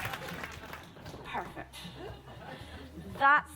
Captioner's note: applause dies down